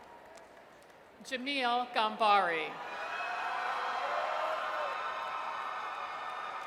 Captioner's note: audience cheers; audience cheers